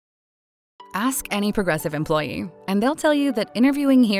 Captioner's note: voiceover